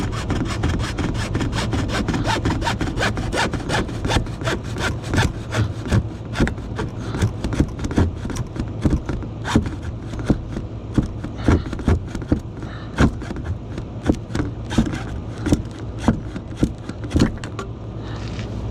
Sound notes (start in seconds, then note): 2.8 hack sawing 1 1/2 inch black drain pipe